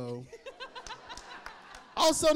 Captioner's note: audience laughing